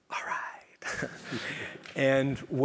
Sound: laugh

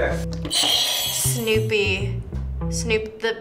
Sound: buzzer rings

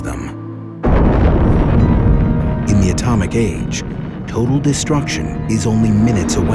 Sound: explosion

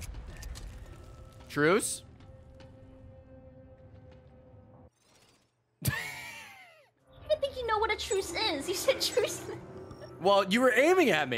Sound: laughs

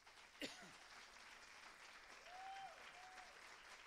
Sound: applause; cheers and applause

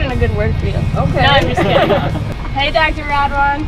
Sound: laughing

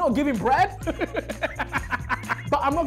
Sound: laughing loudly

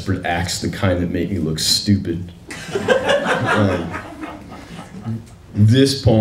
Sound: laughter

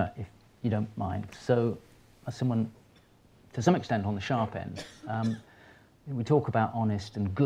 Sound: coughing

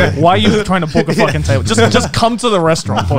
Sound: laughing

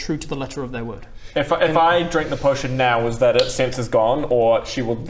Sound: snap

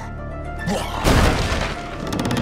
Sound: crash

